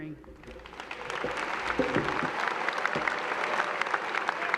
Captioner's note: applause